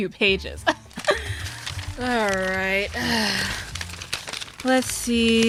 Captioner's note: sounds of an obnoxiously long scroll unfurling